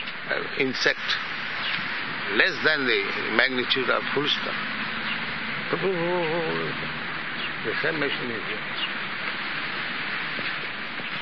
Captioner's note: makes insect sound